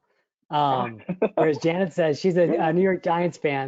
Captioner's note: cheering